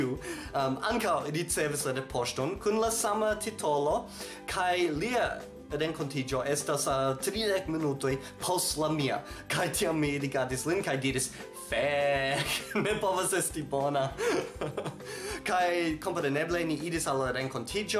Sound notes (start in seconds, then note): 14.2 laughs